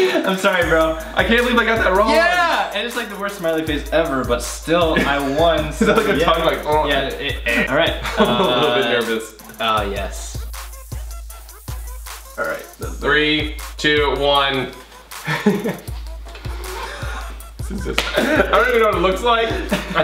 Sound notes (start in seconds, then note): 7.2 gurgling; 14.8 laughs